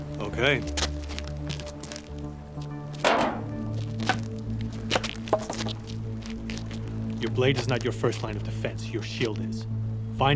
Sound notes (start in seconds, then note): 3.0 stick thudding